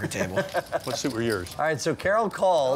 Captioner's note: laughing